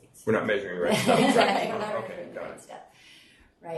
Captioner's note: group laughing